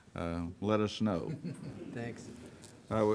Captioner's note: chuckles